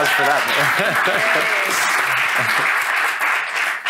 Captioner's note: audience applauding